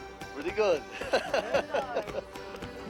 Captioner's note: voiceover; laughs